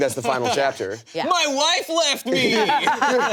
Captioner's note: laughter